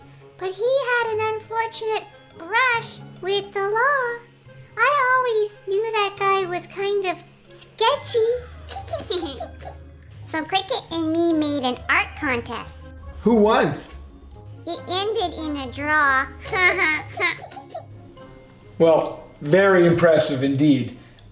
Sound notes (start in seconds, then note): 8.6 giggle; 16.5 giggle